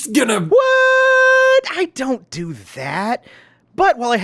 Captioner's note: Deadpool, sounding a LOT like Ethan